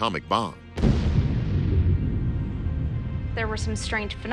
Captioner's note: explosion blasts